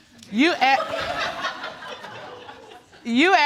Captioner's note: audience laughing